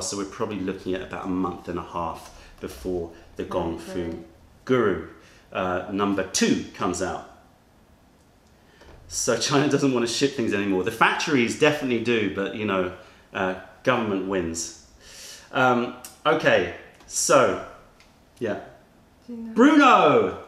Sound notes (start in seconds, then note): 10.8 laughter